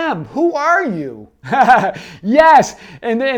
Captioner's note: laughs